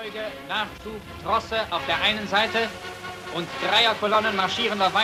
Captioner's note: speaking in foreign language